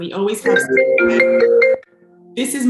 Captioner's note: phone ringing